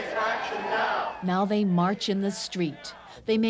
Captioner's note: chanting